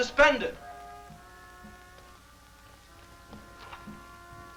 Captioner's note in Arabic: موسيقى هادئة; خطوات قوية